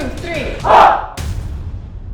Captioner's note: shouts